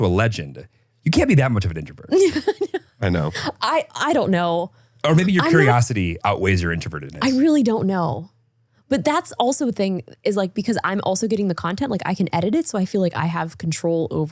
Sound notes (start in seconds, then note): 2.1 Justine laughing